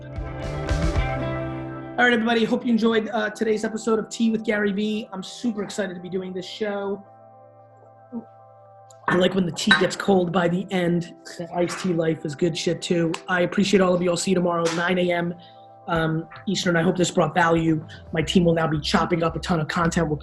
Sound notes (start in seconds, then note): 0.0 bright music; 7.4 gulps